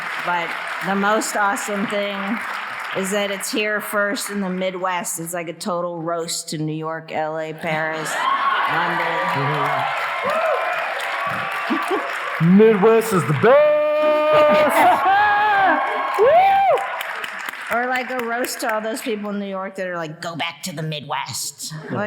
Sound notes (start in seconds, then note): 9.5 audience cheering